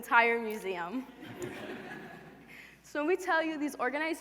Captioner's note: laughter